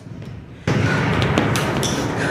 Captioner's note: explosion